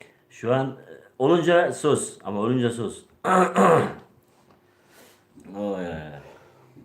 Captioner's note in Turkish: boğazını temizler